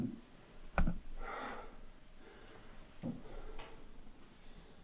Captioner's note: Jacob panting